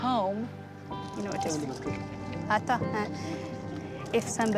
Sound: speaking foreign language

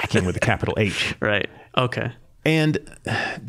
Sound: laughing

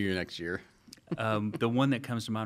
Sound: laughing

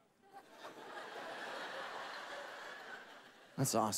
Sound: congregation laughing

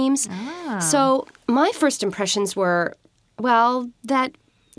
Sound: ahh!

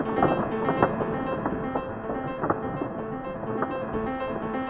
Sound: intense piano music; lightening crackles

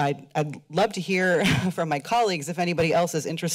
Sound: chuckles

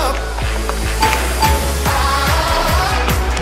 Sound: chime dings

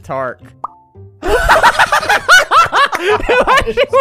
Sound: laughter

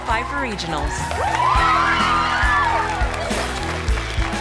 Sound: girls cheer

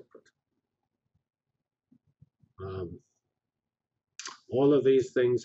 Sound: pause

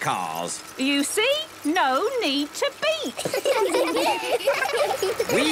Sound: laughter

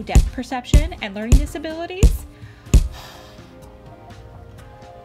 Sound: sigh

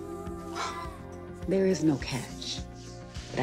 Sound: sighs

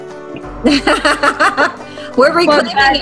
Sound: laughing

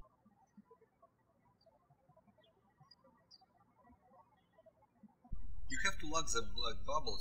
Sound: birds chirping

